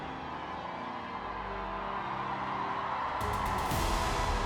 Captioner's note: crowd cheering and applauding; church bells pealing